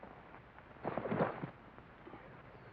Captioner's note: thump